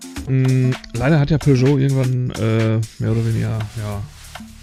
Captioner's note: none